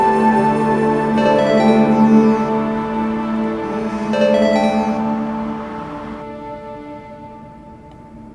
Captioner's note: phone ringing